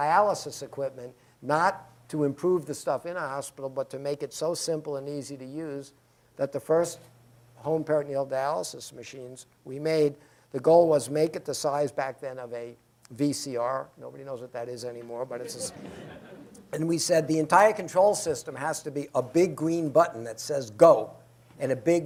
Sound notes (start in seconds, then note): 15.5 laughter